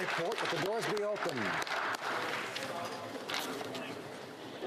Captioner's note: applause